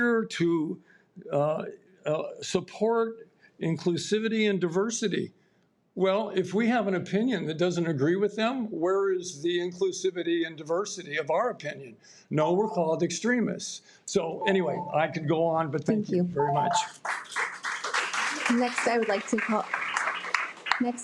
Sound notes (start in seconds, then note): 14.3 alarms beeps; 16.6 audience applauding